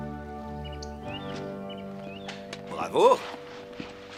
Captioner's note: birds chirping